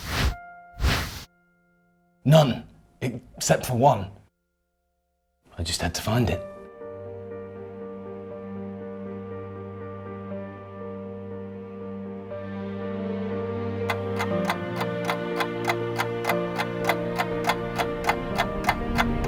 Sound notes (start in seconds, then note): 0.8 memory images whooshing; 7.3 tense music; 12.4 tense music continues; 13.9 clock ticking